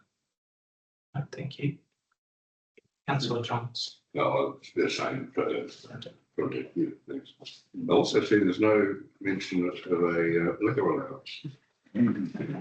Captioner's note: room chuckles